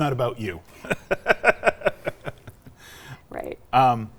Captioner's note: laughs